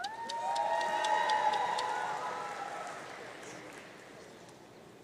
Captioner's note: audience cheering